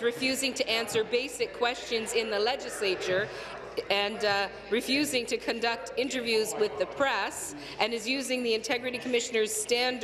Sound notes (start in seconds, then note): none